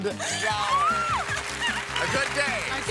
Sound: cheering

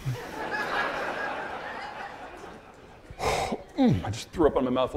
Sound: audience laughing

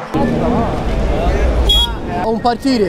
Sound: beep

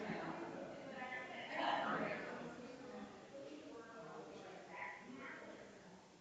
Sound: people chattering distantly continues

